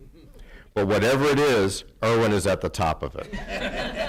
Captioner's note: laughter